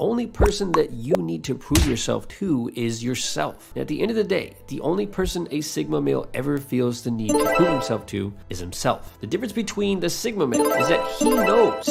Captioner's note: overpowering sound effects